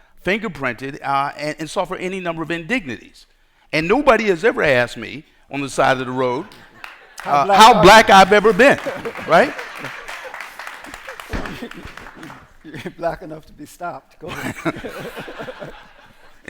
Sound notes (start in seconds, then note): 9.3 applause; 14.2 laughter